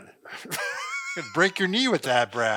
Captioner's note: laughing